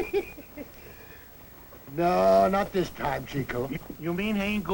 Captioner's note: laughs